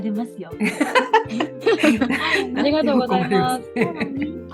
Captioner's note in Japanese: 爆笑